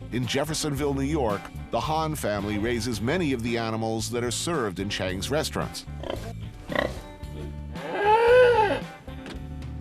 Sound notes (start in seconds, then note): 6.0 pigs snorting; 7.7 cow mooing